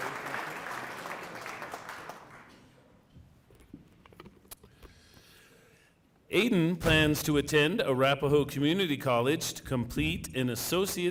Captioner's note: cheering and applause